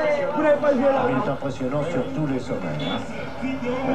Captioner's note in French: son de la TV